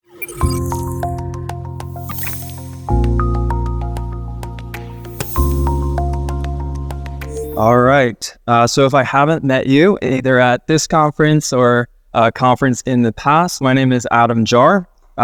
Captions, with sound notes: (light upbeat music) (air hums) - All right, so if I haven't met you either at this conference or a conference in the past, my name is Adam Jahr.